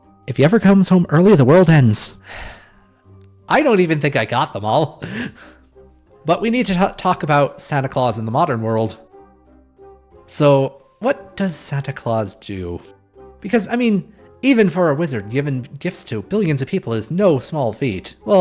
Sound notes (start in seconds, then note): 2.2 sigh; 4.9 laugh